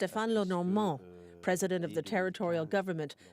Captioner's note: speaking French